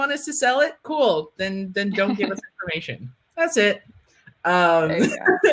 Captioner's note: laughing